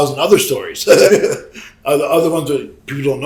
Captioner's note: Sabu chuckles